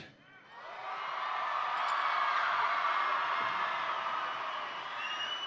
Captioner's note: audience cheering and applauding